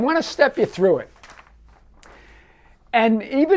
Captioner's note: paper rustling